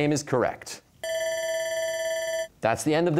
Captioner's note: bell ringing